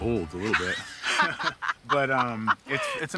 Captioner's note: both laugh